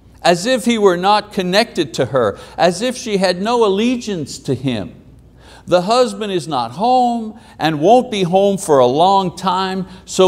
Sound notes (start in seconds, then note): none